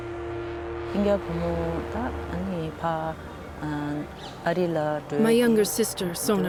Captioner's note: speaks foreign language